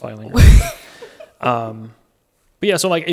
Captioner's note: laughing